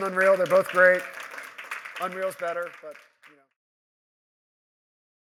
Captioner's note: applause